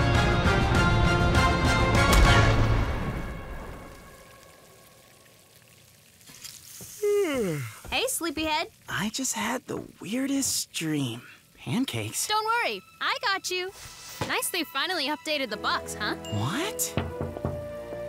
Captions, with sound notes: (epic music) (pan sizzling) (yawns) - Hey, sleepy head. - I just had the weirdest dream. Pancakes? - Don't worry, I got you. Nice they finally updated the box, huh? - What? (knocking)